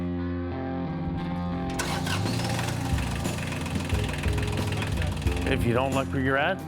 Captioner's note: starting up tractor